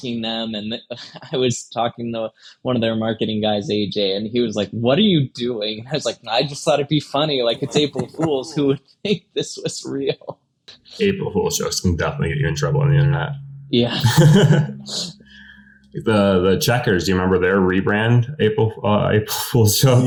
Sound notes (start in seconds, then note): 14.0 laughs